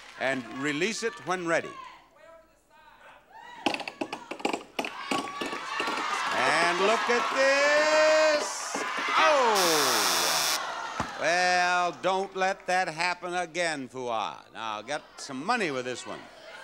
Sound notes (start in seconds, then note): 3.5 plastic clanking; 4.9 audience cheering; 9.5 electronic buzzer